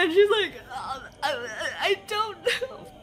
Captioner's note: sobbing and stuttering